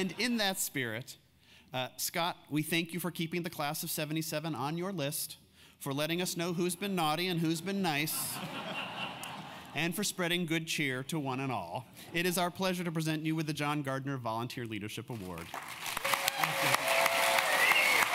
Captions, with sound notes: >> And in that spirit, Scott, we thank you for keeping the class of 77 on your list. For letting us know who's been naughty and who's been nice. >> [LAUGH] >> And for spreading good cheer to one and all. It is our pleasure to present you with the John Gardner Volunteer Leadership Award.